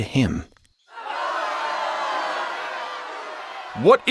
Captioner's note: crowd yelling